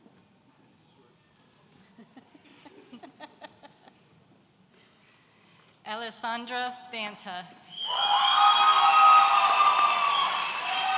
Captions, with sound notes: (all laughing) Alessandra Banta. (audience cheering)